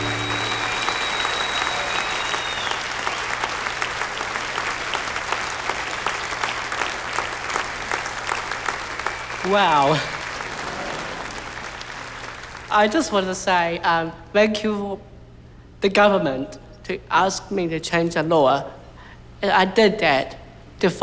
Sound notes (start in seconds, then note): 10.4 applause